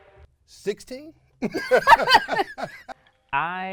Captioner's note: laughing